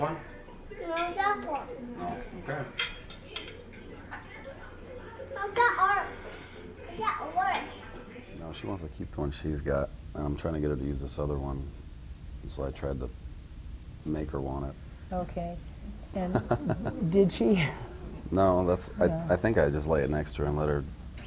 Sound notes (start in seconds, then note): 16.3 laughs